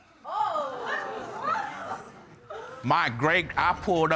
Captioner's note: audience exclaiming